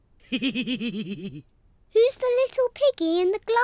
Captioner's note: laughs